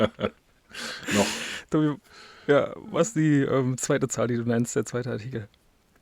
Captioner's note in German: japst